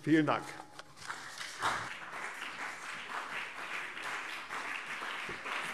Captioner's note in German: Beifall CDU und BÜNDNIS 90/DIE GRÜNEN